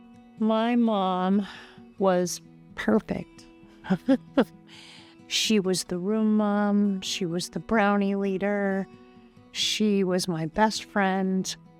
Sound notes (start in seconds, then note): 3.8 chuckles